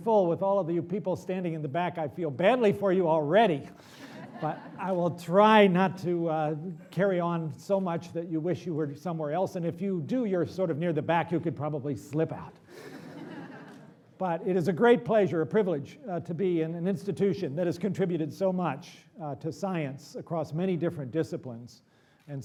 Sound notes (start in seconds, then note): 4.0 laughter; 12.7 laughter